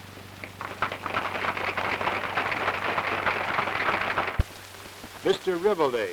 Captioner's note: applause